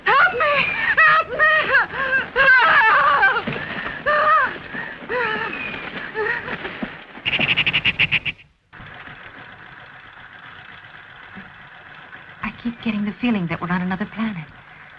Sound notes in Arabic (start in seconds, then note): 3.8 يصرخ; 7.2 نقر المحرك